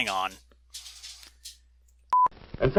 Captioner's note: dog nails on floor